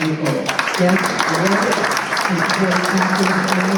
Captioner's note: applause